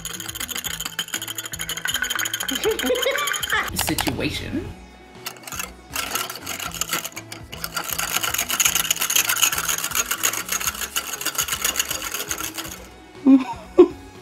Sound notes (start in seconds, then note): 2.6 laughter; 3.8 "situation" audio and double mouse click; 13.2 cackling because she knows the exact feeling